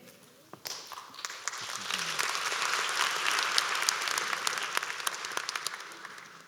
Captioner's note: applause